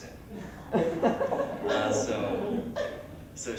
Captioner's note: laughs